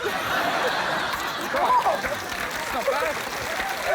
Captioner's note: applause